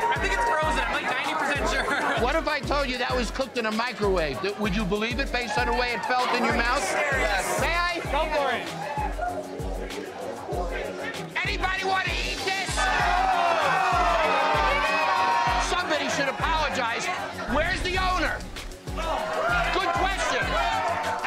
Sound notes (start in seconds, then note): 13.0 crowd; 14.4 crowd booing